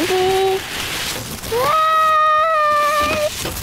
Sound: paper crinkling; yells

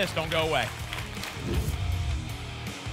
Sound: whoosh

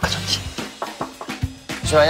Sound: knock knock knock

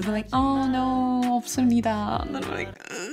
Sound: speaks Korean; groans

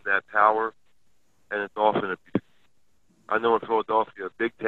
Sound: sound cuts out

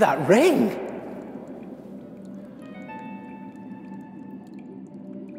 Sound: water gently splashing

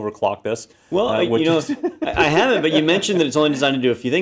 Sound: laugh

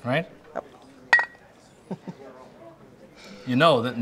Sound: clinks

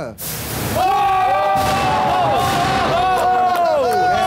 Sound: all cheering

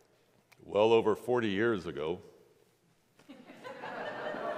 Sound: congregation laughs

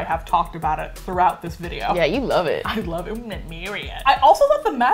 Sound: croaking

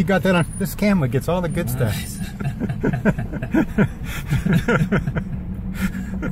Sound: laughing

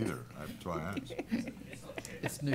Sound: laughter

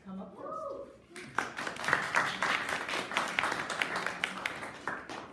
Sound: audience applauding

